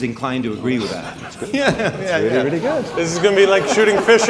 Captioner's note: laughs